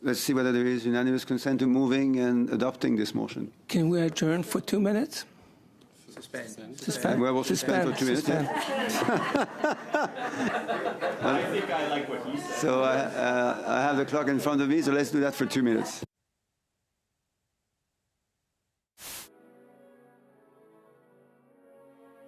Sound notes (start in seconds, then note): 11.6 laughter